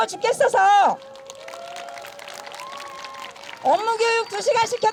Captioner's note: clap